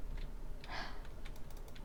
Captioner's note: sigh